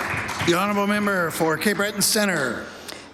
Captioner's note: applause